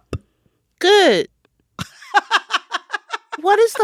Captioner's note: laughter